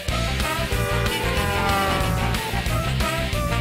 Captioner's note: honking